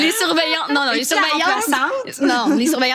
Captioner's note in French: rires